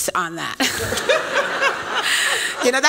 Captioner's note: laughter